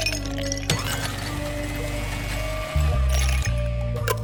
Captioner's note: blender whirring